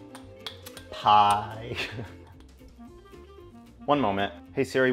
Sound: chuckles

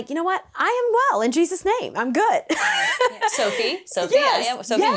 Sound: laughs

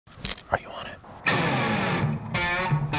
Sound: whispering

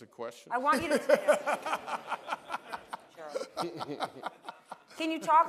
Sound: laughter

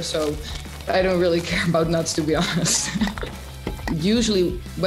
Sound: laughs

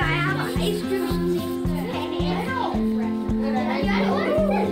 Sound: ambient classroom sounds

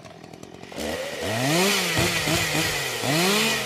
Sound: saw buzzing

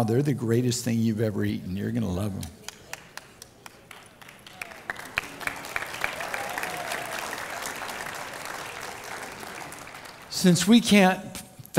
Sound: crowd Cheers

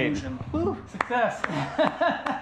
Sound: clapping; laughing

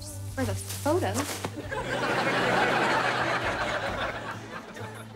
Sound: audience laughing

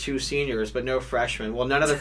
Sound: laughs

